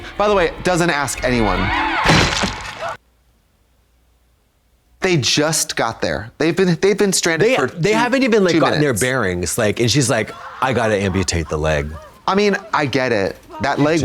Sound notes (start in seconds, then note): 2.0 ax thuds; 2.1 blood squelching